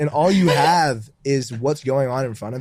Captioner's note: chuckles